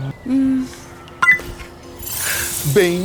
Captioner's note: click